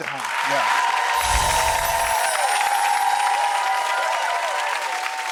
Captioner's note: audience applause